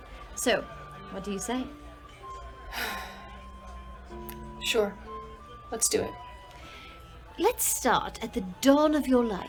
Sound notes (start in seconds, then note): 2.7 sighs